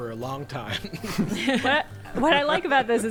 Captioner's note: players laughing